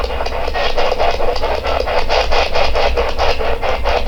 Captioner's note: static pulsing